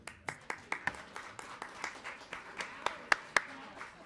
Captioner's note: audience applauds